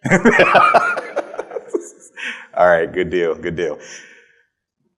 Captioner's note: laughs